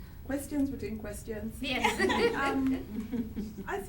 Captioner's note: chuckles